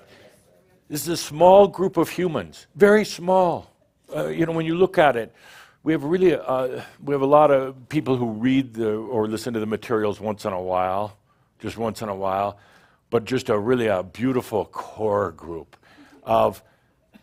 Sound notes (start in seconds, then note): none